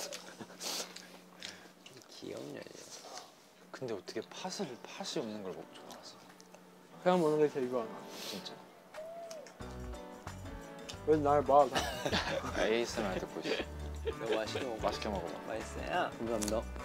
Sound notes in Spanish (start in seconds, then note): 11.7 Jajaja